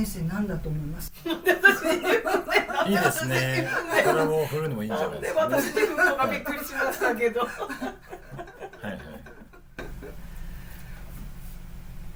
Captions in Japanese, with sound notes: [笑い] いいですね。 これも振るのもいいんじゃないです。で、私がびっくりしましたけど。 [笑い] はい。はい。